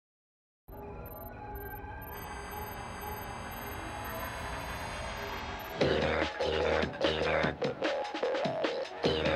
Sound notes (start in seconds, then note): 0.7 computer interface beeping; 5.8 electronic rock music